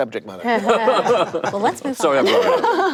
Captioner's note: panelists laugh